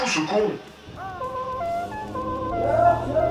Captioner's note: sounds of horns and car in the distance